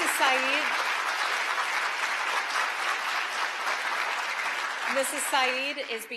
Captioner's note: applause